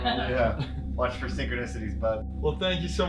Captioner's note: laughing